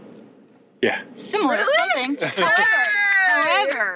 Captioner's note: applause